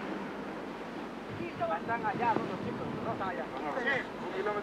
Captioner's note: Spanish language